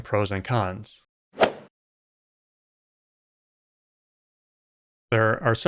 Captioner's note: golf ball hit sound